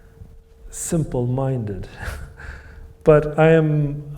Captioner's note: chuckles